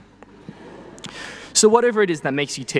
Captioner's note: people laughing